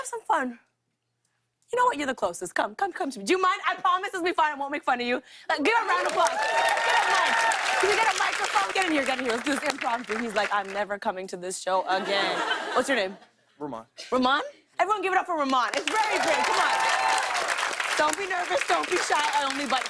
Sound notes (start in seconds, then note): 5.8 cheers and applause; 15.7 cheers and applause